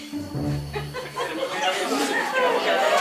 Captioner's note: laughs